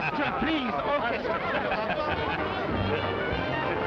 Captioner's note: laughing; laughs; cheerful jazz music